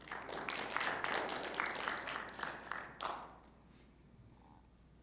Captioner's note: audience applauds